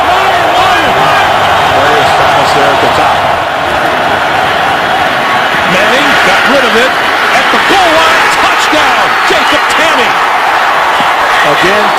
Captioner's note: crowd noise